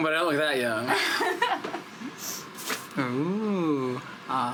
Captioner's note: laughing